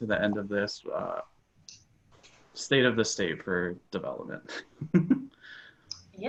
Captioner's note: chuckles